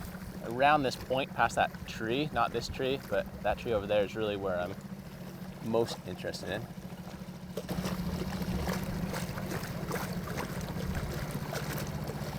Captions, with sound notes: around this point, past that tree, not this tree, but that tree over there is really where I'm most interested in. (boat engine revving) (water splashing softly)